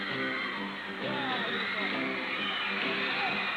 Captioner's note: cheers and applause